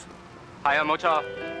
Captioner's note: speaking Mandarin